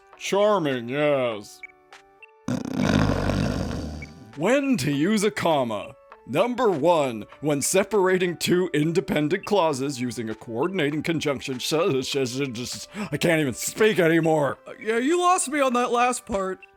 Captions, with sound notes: Charming, yes. (snores) When to use a comma! number one when separating two independent clauses using a coordinating conjunction-- suuuuhhhhsssuuussuuuudddduuuuu I can't even speak anymore! Yeah, you lost me on that last part.